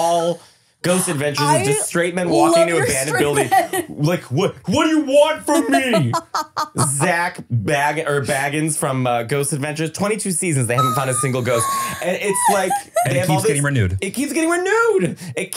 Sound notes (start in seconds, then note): 5.4 laughing